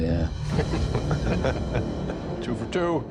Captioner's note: chuckling